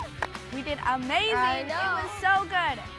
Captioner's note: cheers & applause